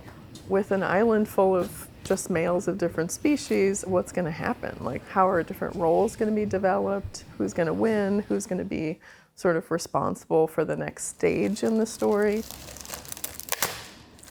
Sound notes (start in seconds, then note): none